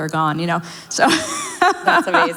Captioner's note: laughs